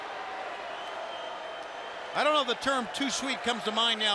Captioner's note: crowd chatter